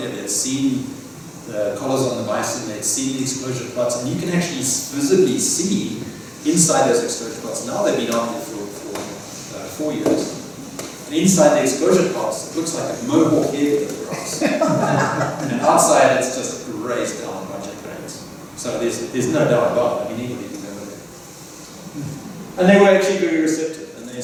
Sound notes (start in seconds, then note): 14.0 laughter